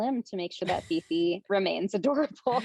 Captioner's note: chuckles; laughing